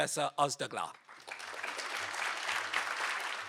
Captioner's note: applause